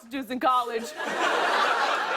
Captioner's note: laughter